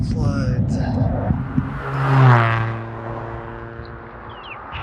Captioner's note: hot rod car passing